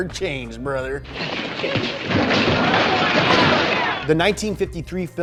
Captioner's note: crowd cheering